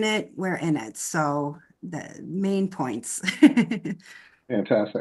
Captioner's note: laughs